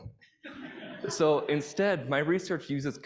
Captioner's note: audience laughing